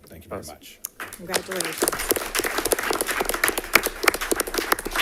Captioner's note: applause